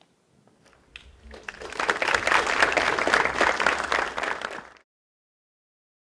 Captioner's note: applause